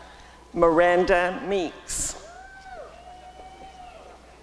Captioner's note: applause and cheering